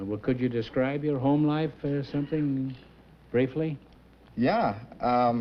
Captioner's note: none